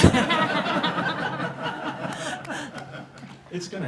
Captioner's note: laughing